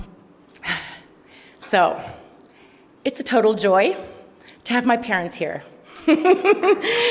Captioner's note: laughs